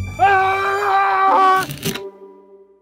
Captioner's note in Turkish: Çığlık